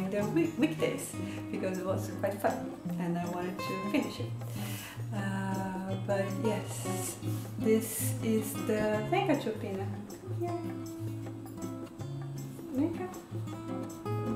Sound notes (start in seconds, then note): 7.6 speaking portuguese